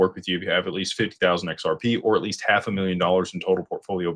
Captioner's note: none